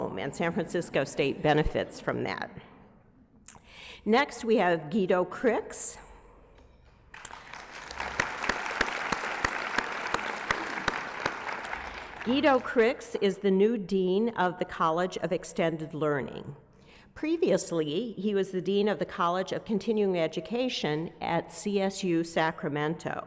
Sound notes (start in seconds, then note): 7.1 applause